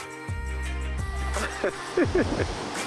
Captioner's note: laughing